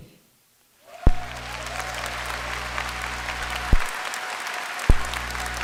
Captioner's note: applause